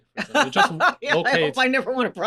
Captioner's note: laughter